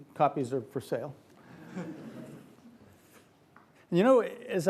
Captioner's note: audience laughs